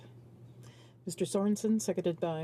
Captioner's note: speaking French